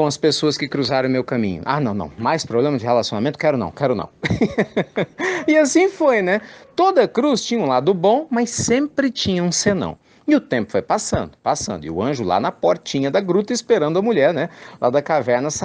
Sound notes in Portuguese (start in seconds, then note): 4.2 Risos